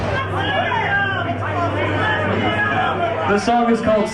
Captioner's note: crowd chanting